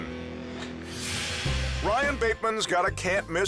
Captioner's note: transition whooshes